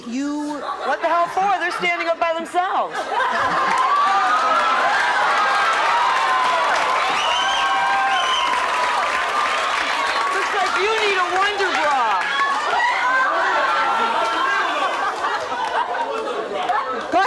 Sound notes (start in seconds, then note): 2.9 audience laughs